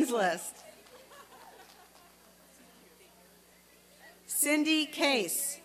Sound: applause and cheering

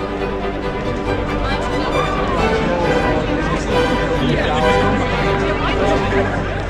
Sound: excited chatter; triumphant music

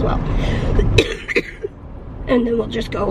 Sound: coughing

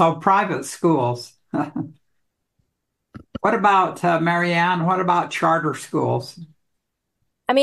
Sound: brief laughter

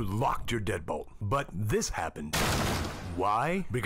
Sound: door loudly smashes

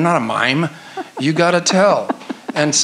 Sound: laughs

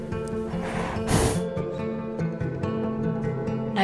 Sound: heavy breathing

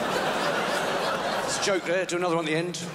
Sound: crowd laughs

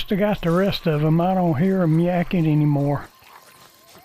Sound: talking

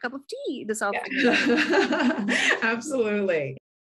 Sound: laughter

